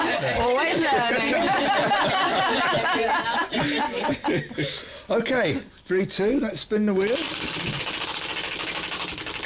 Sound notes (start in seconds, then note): 2.0 laughter